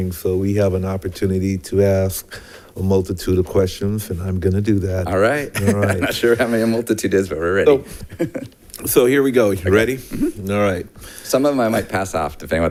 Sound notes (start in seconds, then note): 7.8 laughs